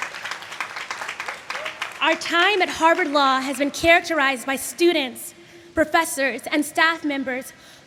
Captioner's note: applause